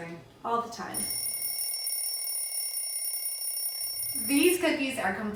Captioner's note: bell ringing